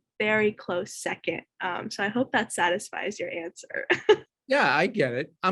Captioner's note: laughs